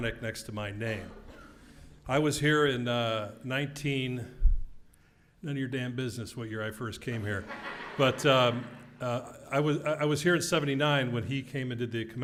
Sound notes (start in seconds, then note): 7.6 laugh